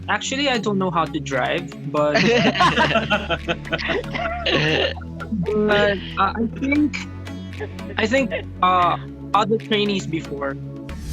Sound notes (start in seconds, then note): 2.1 band laughs